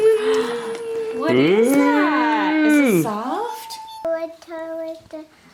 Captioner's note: cooing